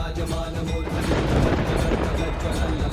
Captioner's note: thunder cracking